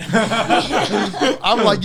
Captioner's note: all laughing